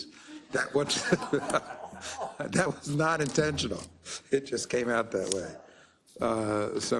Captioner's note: laugh